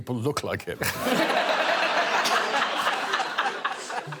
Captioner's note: all laughing